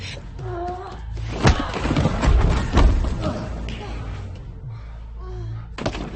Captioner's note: tense music; both grunting; punches thudding